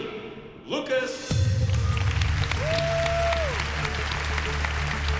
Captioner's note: cheering and applause